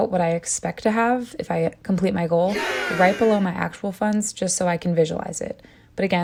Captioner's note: cheering sound